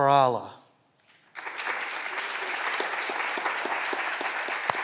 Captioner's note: clapping continues